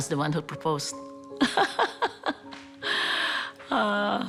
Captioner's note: laughs